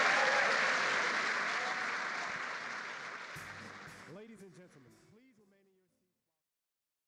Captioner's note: applause